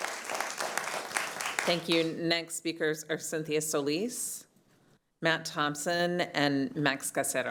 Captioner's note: applause